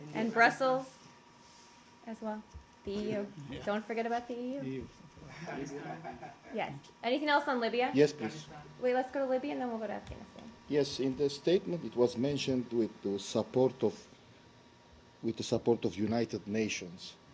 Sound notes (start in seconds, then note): 5.3 laughter